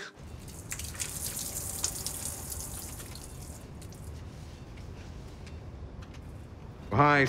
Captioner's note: water drips